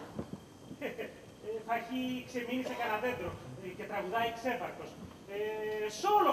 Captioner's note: γέλιο